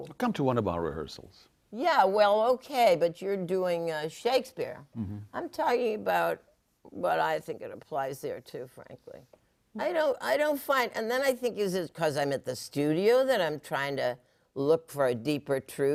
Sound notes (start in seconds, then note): none